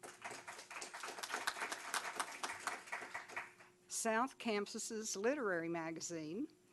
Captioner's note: applause